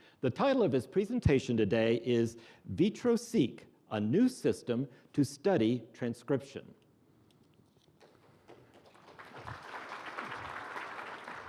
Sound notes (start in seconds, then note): 8.0 applause